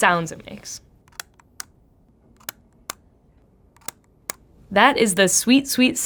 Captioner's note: camera clicks